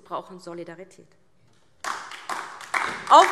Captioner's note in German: Beifall DIE LINKE und vereinzelt SPD